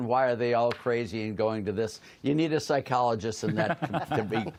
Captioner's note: laughter